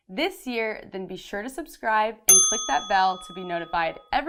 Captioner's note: bell rings